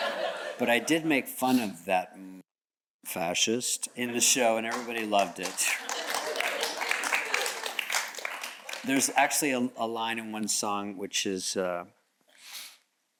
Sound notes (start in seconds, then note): 0.0 audience chuckles; 6.9 audience clapping